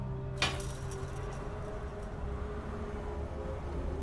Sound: fence rattling

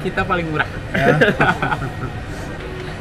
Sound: laughing

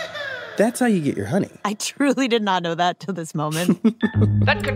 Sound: laughs

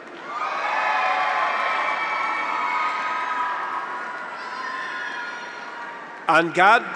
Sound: graduates cheer; audience applauds

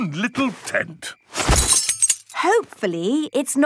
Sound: clang-ruffle-thump

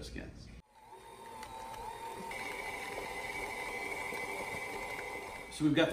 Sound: mixer whirring

